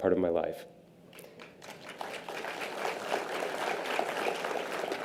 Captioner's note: audience applause